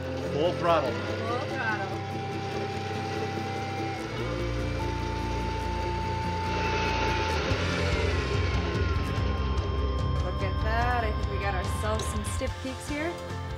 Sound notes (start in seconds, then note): 2.2 mixing high speed